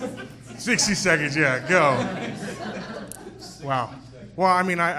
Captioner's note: laughing; people laughing; people laughing